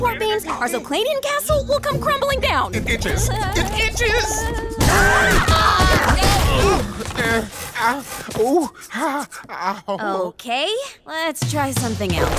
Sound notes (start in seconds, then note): 4.2 screaming